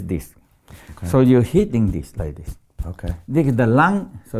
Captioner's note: light thumping